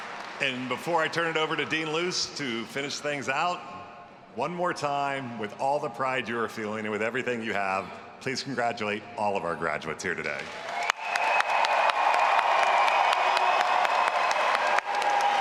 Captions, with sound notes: And before I turn it over to Dean Luce to finish things out, one more time, with all the pride you are feeling and with everything you have, please congratulate all of our graduates here today. (all applauding and cheering)